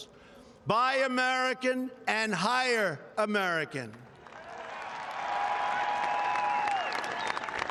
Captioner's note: applause